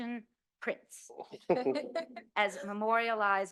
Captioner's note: chuckles